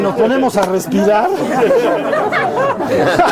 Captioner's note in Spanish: risas